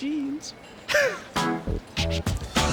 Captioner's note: laughs